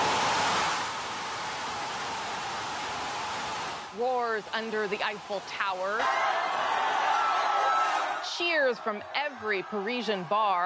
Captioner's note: cheers and Applause